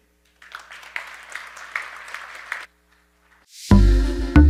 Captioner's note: audience applauding; bright music